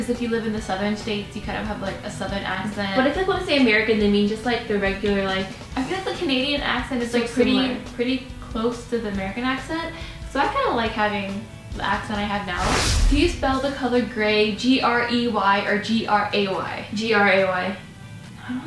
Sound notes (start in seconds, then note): 12.5 rush of air